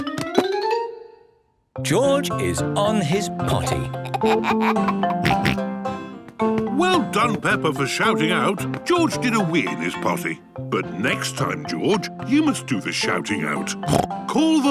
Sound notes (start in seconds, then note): 3.6 giggles, snorts; 13.8 snorts